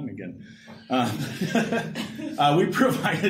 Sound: laughter

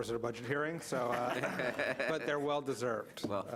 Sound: audience laughs

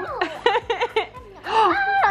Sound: giggling

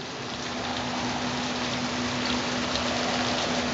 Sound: wind howls

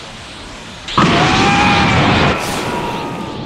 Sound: VEGETA screams

